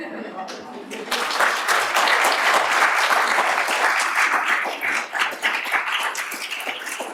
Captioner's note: applause